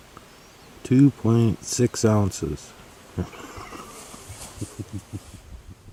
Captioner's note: laughter